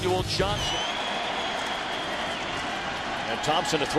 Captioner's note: crowd cheering